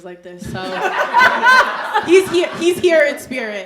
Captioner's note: audience laughing